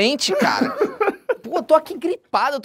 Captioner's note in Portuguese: risadas